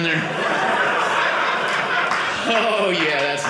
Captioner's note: audience laughing